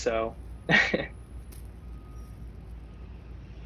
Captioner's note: laughs